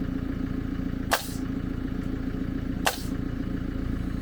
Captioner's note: nail gun shooting